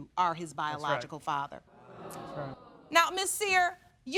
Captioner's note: audience react